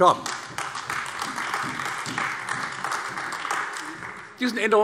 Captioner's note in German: Beifall AfD